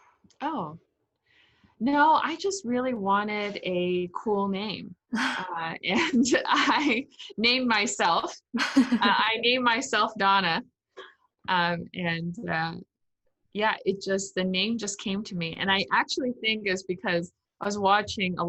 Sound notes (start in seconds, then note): 5.7 laughs